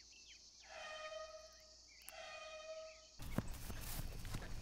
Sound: faraway horn blares

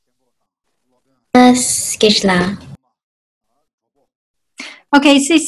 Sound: speaking in foreign language

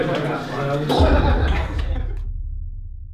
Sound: explosion noise

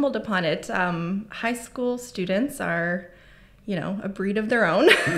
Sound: chuckles

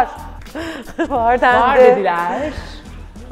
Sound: laughs

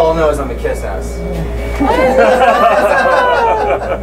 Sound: all laughing

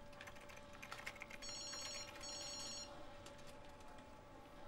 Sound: phone ringing

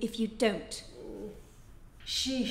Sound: groans

